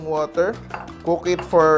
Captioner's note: clatters